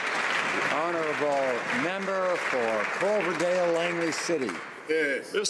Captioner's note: some Applause